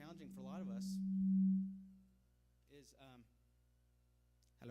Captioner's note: microphone feedback